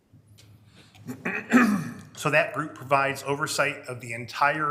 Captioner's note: clears throat